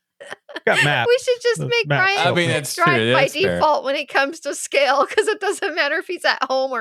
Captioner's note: laughing